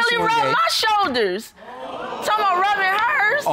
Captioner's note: audience gasps